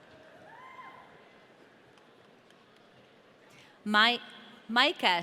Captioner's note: audience cheering